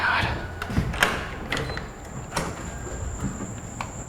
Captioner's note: sighing; door clicking